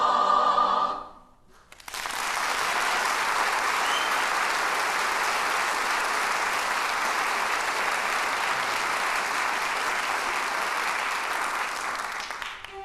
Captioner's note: applause